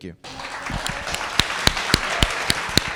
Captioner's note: audience clapping